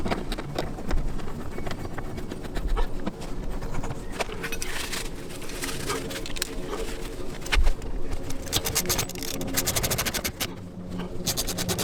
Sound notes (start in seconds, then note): 0.1 bolts screw in; 8.5 wrench clicks